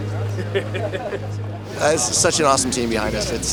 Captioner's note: laughing